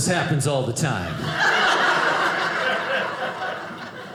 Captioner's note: audience laughing